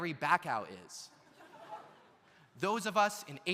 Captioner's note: audience laughs